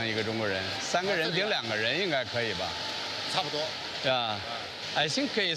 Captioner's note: employee speaking foreign language